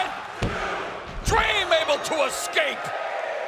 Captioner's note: crowd cheering